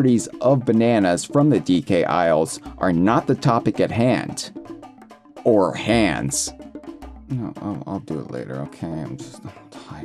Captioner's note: in low, tired voice